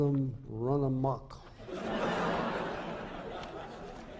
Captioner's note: laughter